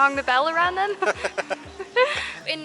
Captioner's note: laughs